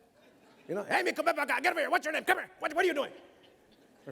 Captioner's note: mimics father yelling